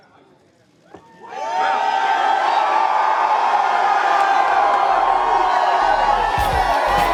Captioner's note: crowd cheering